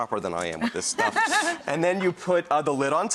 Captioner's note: laughing